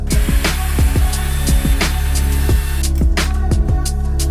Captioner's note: drill whirring